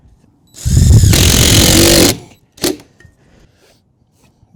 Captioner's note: drill whirring